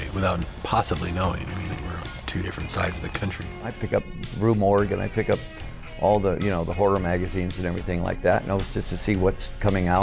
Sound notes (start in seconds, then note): none